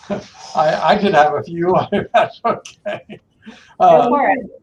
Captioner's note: chuckles